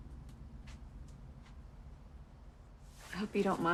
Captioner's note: footsteps shuffle